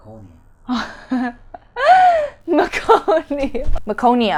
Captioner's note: laughs